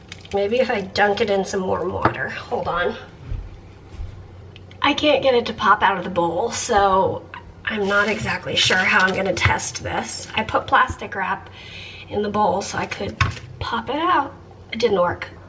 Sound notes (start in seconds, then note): none